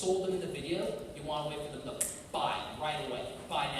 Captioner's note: snaps